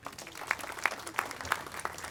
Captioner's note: applause